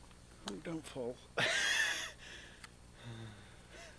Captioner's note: chuckles